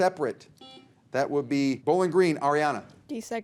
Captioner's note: buzzer beeps